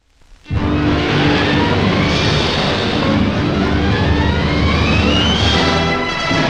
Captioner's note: dramatic orchestral music; waves crashing